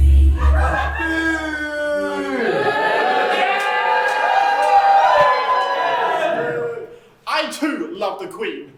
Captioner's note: BOO! And YAY! From audience